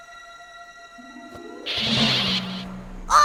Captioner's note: pelican squawks